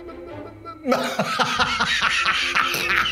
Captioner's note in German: Übertriebenes Lachen